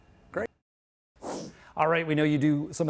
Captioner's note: whoosh sound